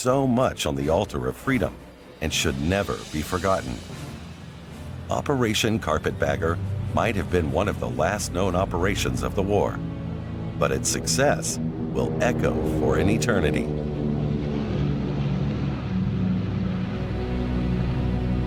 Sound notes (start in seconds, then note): 13.8 airplane engine roaring